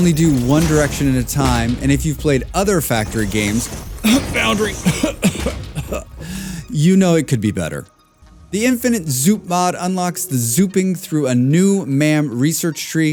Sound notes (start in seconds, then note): 4.0 coughing